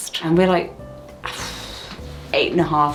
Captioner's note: exhales